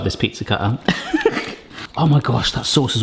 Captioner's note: laughs; sighs